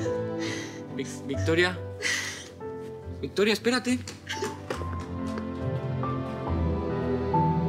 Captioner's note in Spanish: Sollozos